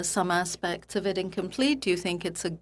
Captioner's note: speaking French